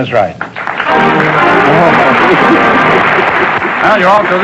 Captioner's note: applause